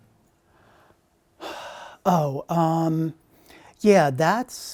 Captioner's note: sigh